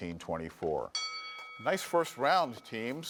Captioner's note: bell dings